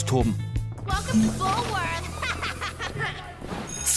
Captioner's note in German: Hämisches Lachen